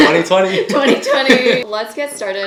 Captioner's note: both laughing